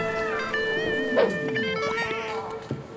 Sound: laughing

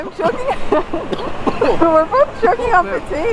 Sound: cough sounds

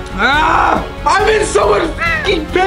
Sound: yelling

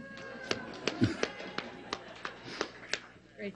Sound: applause

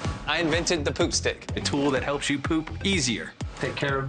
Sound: air whooshes

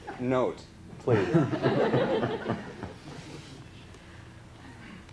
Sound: laughter

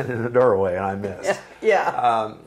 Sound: laughing

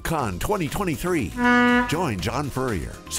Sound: horn honking

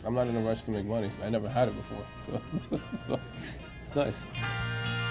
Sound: chuckles

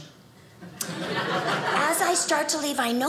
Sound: audience laughing

